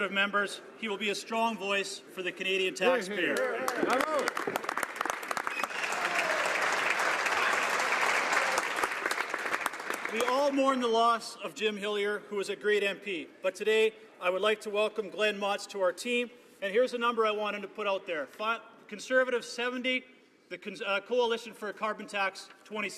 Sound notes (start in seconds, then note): 8.0 some Applause